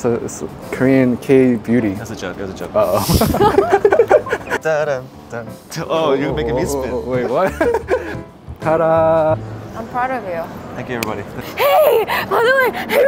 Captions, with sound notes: - Yeah, it's Korean K-Beauty. - It's a joke, it was a joke. - Oh. (all laughing) - Oh, you're making me spin. - Wait, what? Ta da! - I'm proud of you. (hands clapping) - Thank you, everybody.